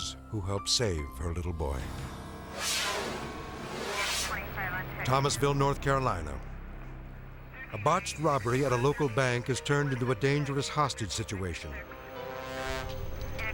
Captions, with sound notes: who helped save her little boy. (air whooshes) Thomasville, North Carolina. A botched robbery at a local bank has turned into a dangerous hostage situation.